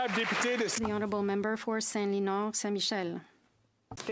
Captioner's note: applause